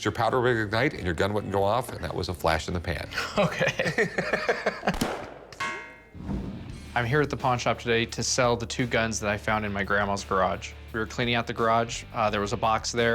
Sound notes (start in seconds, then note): 3.1 laughs; 4.9 gun fires; 4.9 bullet ricochets